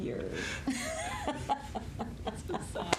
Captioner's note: all laughing; hands slapping